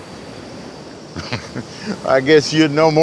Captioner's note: uncle chuckles